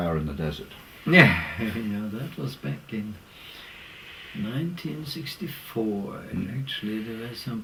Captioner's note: laugh